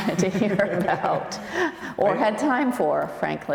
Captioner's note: laughs